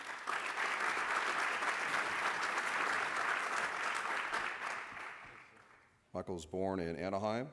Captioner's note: applause